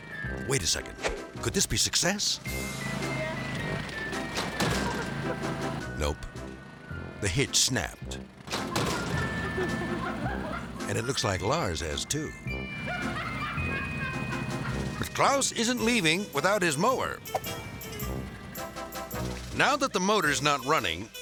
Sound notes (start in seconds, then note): 2.4 bright music; 8.6 laughing; 12.8 laughing; 18.1 bright music